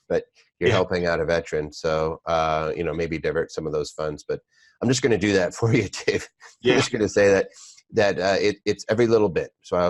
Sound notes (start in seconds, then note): 6.2 laughter